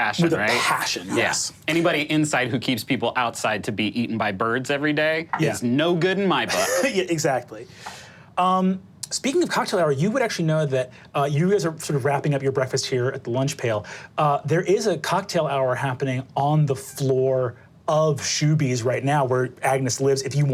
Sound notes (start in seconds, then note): 6.7 laughs